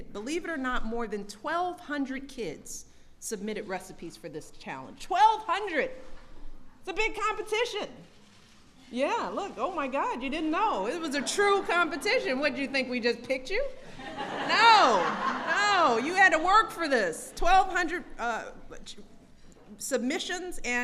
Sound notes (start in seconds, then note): 11.1 laughter; 13.8 laughter